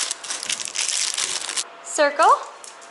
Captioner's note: none